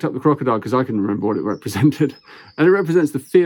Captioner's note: chuckles